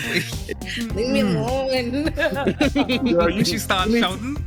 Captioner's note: laughter